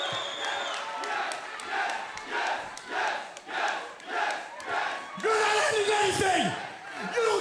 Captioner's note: fans chanting